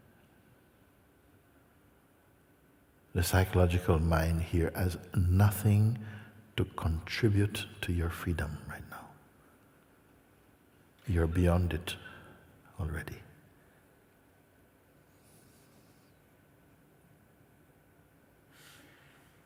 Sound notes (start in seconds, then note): 13.2 largo silencio